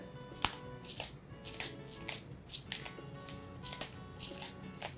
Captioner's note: pepper mill clicking